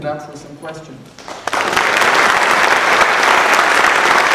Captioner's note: applause